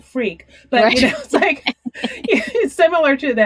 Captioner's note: laughing